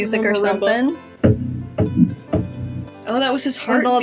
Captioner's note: thumping